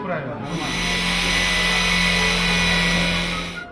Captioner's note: drill humming